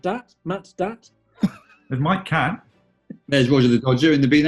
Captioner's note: sniggering